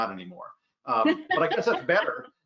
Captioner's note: laughs